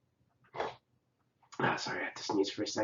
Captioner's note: sneeze